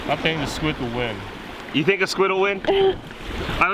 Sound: laughing

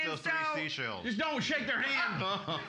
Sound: loudly laughing

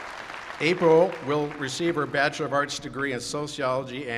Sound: applause

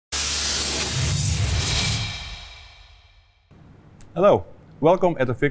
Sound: electricity crackles

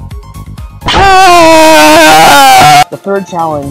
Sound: screaming

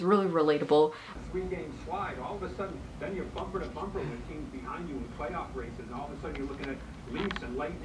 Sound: TV playing

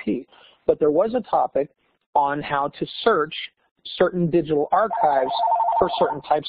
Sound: phone rings

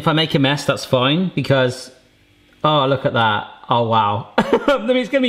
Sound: laughing

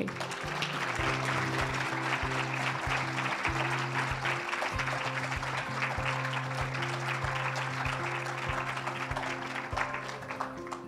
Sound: applause

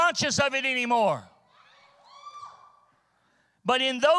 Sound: congregation cheering

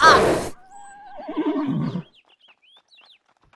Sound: neigh

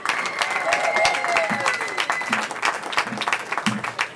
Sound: cheering

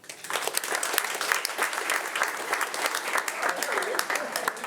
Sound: audience applauding

